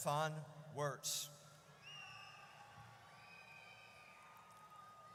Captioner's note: audience cheers